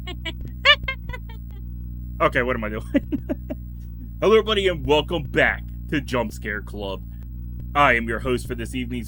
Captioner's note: creepy laughing